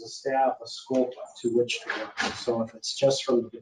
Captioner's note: speaking faintly